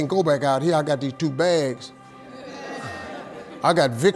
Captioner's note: audience laughing